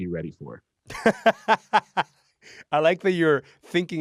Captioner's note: laughs